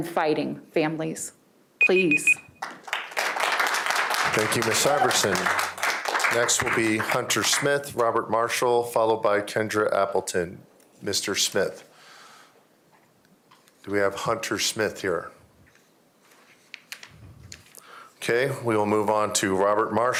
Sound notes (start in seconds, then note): 7.2 applause